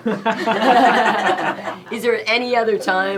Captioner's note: laughs